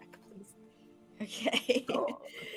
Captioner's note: laughing